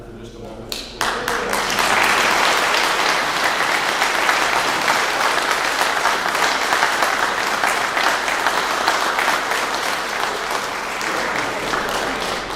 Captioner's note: clapping